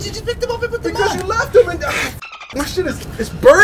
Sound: dolphin squeak

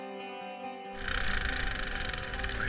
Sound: machine whirling

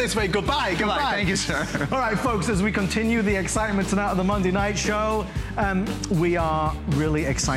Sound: laughter

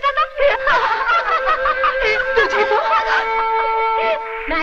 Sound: laughs

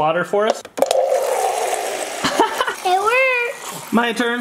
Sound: water pouring

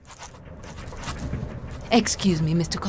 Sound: pen scratching on paper

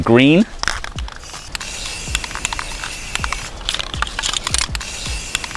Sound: spray can clicking

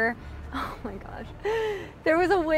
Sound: none

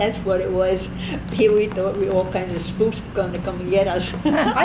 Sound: laughs

